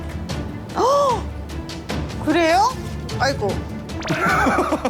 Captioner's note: gasps